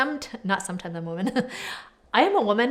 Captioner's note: laughs